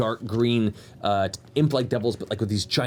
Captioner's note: none